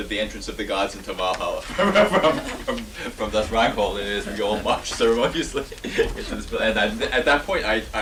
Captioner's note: laughs